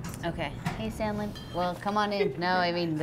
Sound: lab group talking

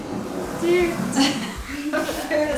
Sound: hums excitedly; laughing

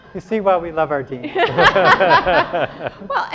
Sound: laughter

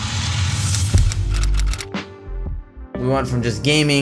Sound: typewriter clicking

